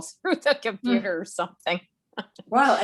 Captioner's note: laughs